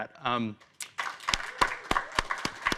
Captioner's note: applause